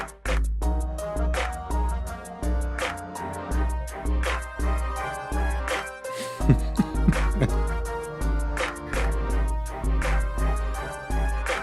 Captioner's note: chuckles; soft Music